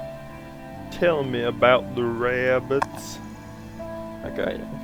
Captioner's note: Jak's 'smart' voice